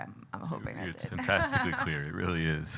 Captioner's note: laughing